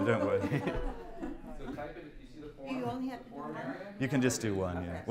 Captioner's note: chatter